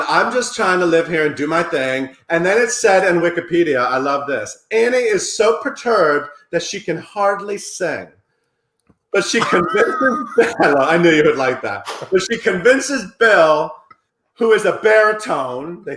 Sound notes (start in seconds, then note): 9.2 laughing